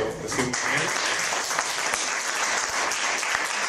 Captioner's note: applause